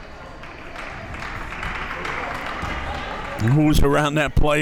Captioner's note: audience applauds